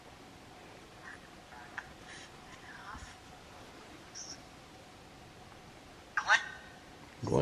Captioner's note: coughing